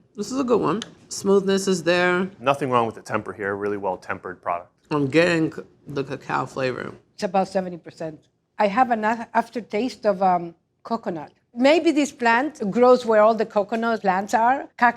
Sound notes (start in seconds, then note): none